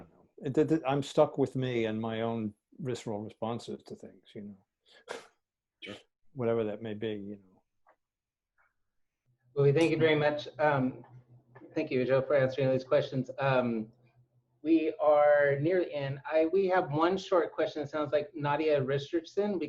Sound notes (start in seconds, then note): 4.0 laugh